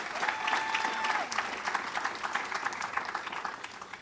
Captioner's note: audience cheers